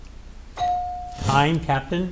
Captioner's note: bell ringing